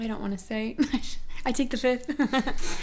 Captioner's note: laughs